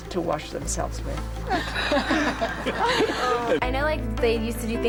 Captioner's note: chuckling nervously